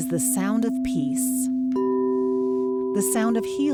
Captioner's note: resonating high frequencies tone